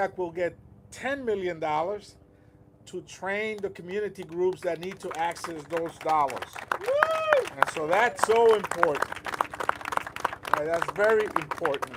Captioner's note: applause